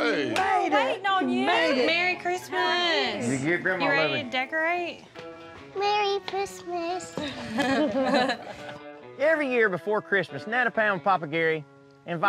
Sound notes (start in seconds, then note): 7.2 everyone chuckles